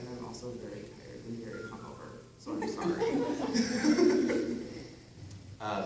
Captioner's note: laughs